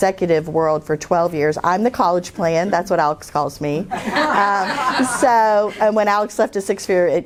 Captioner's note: laughter